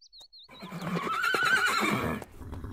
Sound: neigh

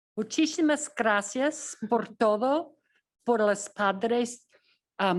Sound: speaking in foreign language

